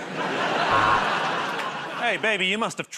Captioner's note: laughter; buzzer